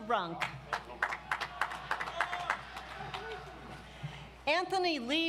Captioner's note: audience applauds